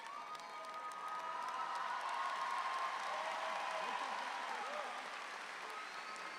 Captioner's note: audience applauds louder